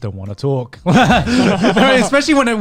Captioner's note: laughing